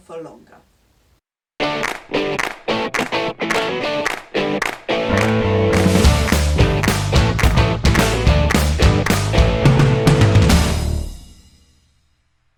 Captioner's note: claps